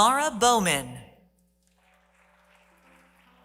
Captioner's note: applause